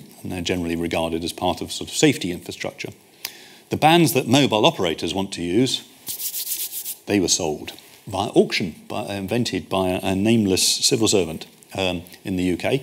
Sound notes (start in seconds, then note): 6.0 hands rubbing